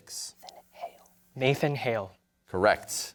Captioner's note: whispers